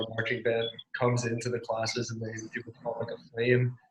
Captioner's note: murmurs